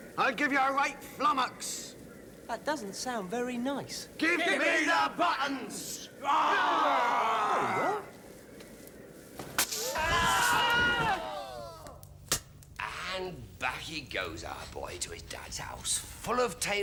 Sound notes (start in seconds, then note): 2.5 multiple voices; 6.2 screaming; 9.7 screaming